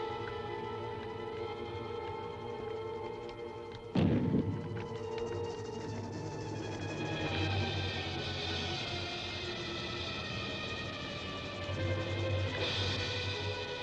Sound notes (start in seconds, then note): 3.9 small explosion; 6.8 flames crackling